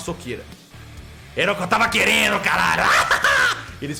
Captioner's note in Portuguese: risada maligna